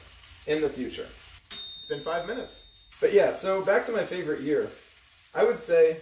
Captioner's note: ding